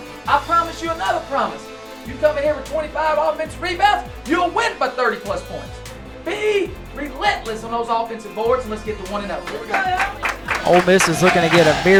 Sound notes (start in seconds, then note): 9.4 clapping